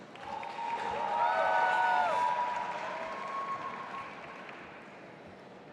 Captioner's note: audience applauding and cheering